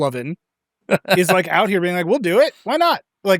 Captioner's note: laughs